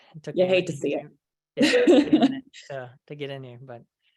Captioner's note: laughs